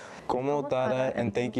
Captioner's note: speaking foreign language